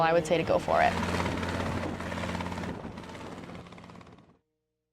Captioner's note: rotors spinning